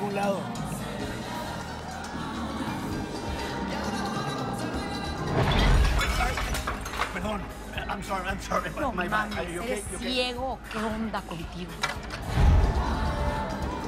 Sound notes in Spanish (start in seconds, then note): 7.2 Estruendo